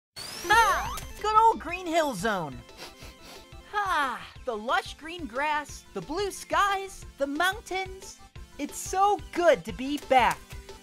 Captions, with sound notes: Good 'ol Green Hill Zone. (sniffs) Ahh~ The lush green grass, the blue skies, the mountains... It's so good to be back.